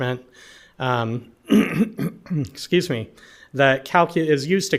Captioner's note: clears throat